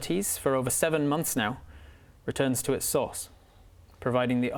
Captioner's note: none